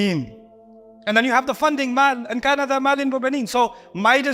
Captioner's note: Arabic